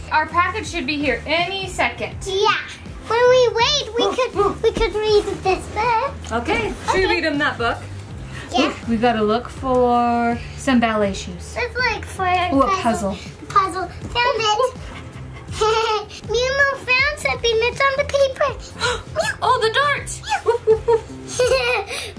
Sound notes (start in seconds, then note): 15.3 laughing